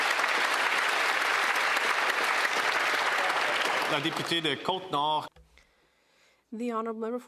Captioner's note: some Applause